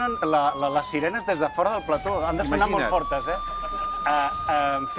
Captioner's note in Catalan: sonen sirenes